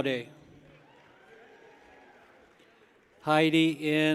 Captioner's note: people cheer